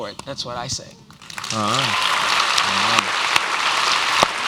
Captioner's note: applause